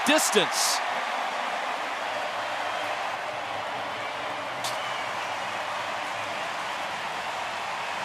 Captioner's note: cheering